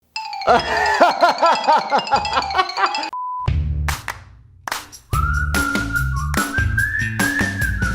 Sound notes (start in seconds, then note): 0.4 laughing; 3.4 upbeat music